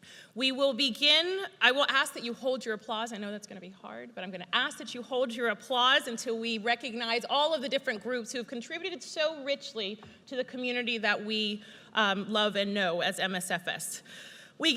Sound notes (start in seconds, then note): none